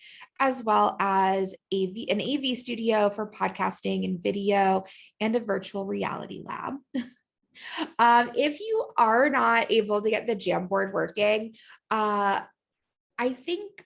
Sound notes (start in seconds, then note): 6.8 laughter